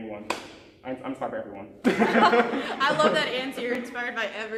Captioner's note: laughing